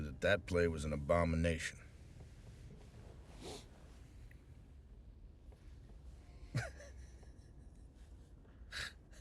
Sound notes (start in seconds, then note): 3.4 sniffles; 6.5 laughing